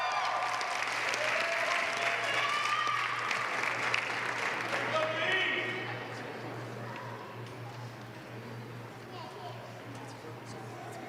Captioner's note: applause